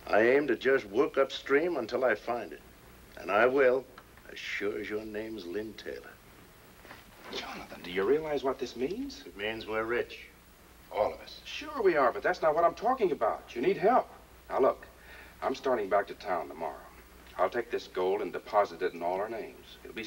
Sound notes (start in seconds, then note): none